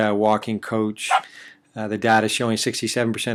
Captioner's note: sound of dog barking